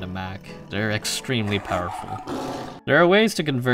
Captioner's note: tiger growling